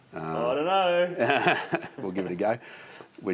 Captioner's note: laughs